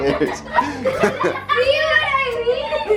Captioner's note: laughter